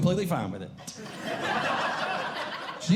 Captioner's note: audience Laughing